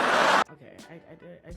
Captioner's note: audience laughing